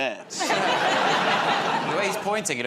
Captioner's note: laughter